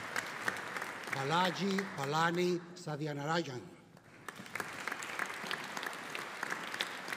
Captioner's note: audience applauding